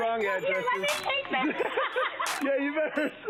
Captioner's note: laughing